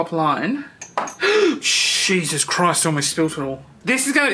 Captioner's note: gasps